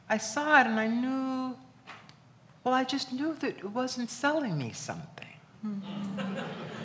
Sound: laughs

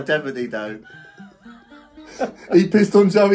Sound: both laughing

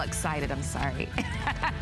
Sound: laughter

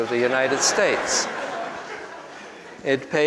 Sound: group laughs

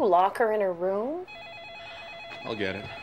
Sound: phone rings

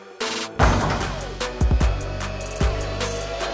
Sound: upbeat music; ball dunking

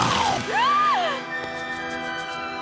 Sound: gasping

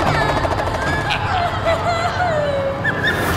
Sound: giggling

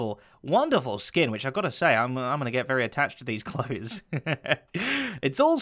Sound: chuckles

